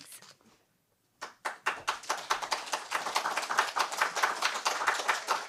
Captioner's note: applause